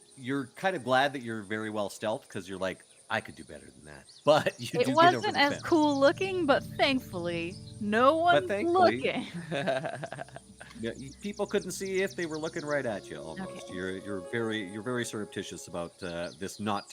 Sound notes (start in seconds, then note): 4.3 laughs; 9.2 Cornette laughs